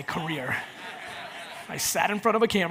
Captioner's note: audience laughs